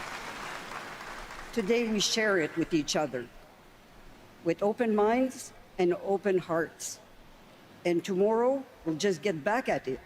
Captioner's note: cheers and Applause